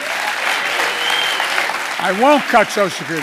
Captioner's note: applause